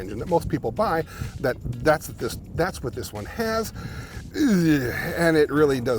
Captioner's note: groans